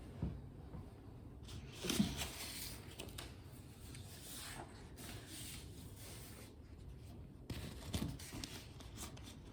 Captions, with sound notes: [papers shuffling] 'in the source of the scene'